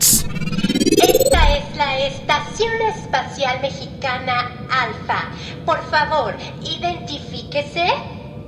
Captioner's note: in Spanish